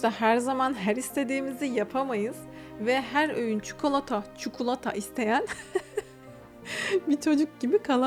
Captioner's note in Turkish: kahkaha